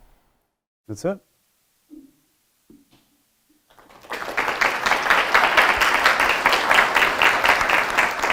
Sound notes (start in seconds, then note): 3.7 audience applauding